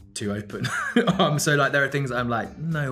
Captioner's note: Ben chuckling